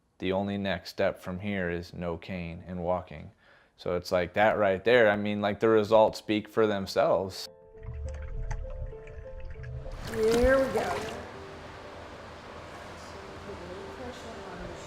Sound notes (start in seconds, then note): 7.8 water sloshing